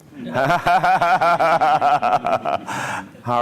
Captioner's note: laughter